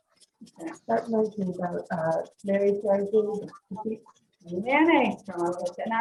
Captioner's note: off camera speaking